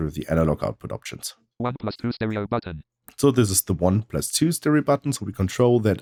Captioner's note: automated voice